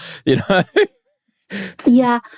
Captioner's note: laughs